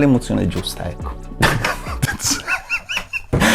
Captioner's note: bursts into laugh